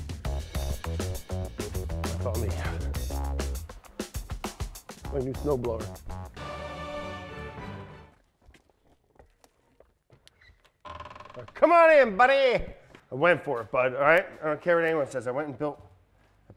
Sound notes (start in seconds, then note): 0.0 lively funk music; 10.3 door creaking